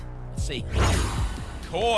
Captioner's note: whoosh